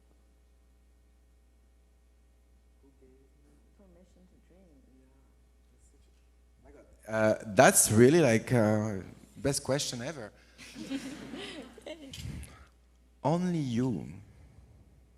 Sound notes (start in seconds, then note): 2.9 olivier off mic; 3.8 off mic; 4.7 olivier off mic; 10.6 audience laughs